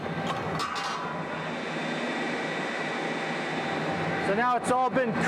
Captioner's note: metal lid clanking